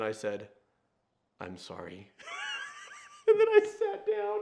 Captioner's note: laughing